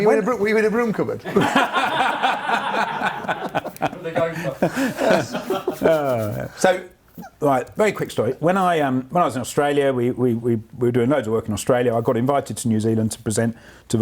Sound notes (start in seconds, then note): 1.3 laughs